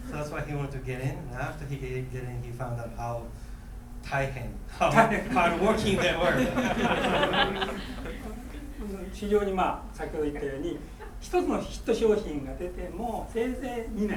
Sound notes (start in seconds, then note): 4.9 laughing; 9.4 speaking in foreign language